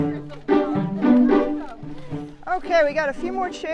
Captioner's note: group faintly chattering; uplifting music